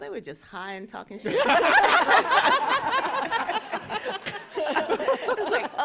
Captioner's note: laughter